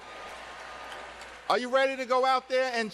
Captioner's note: cheers and applause